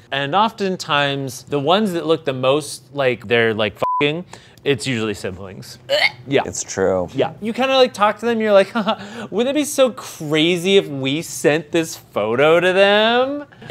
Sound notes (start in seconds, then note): 3.8 beep; 6.0 exclaims